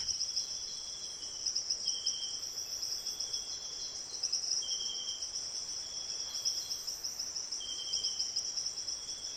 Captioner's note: birds chirping and singing